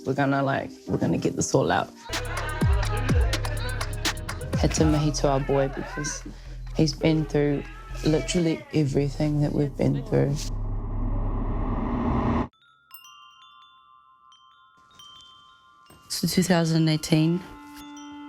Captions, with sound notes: 'We're gonna, like— We're gonna get this all out.' Had to mihi to our boy, because he's been through literally everything that we've been through. (CHIMES TINKLE) So 2018...